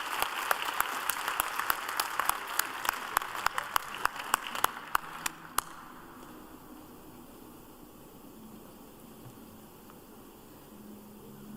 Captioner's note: applause